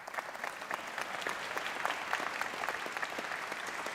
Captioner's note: applause